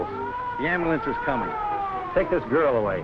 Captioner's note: siren wailing